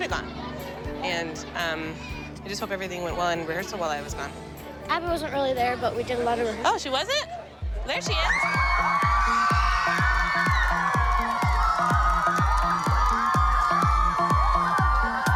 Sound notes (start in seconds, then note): 8.0 crowd cheering; 9.0 applause